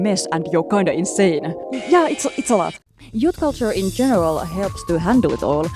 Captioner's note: teen emo screeching